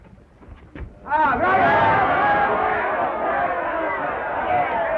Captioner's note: crowd taunts